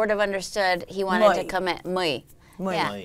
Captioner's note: foreign language